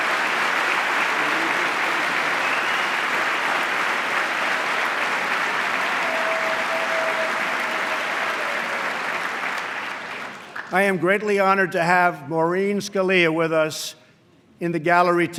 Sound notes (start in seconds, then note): 2.0 applause